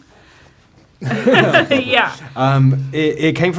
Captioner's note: laughing